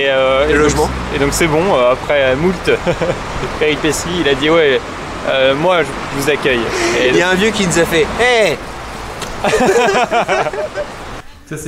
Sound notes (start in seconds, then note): 9.4 laughes